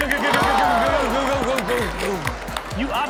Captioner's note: audience gasps